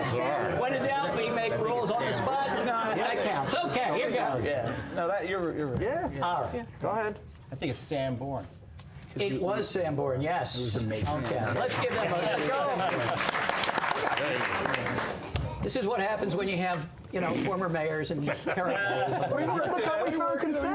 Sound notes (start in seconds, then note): 11.1 applause